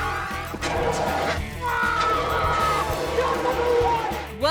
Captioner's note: fire extinguishers roaring; screaming